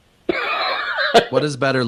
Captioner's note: laughs